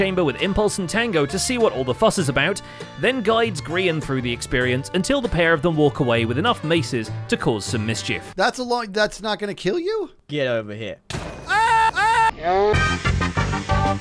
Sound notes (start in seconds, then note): 11.4 screams; 11.4 same scream, distorted; 11.4 bonk